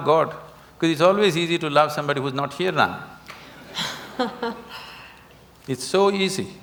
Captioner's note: Juhi Laughs